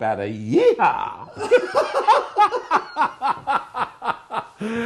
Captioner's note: laughing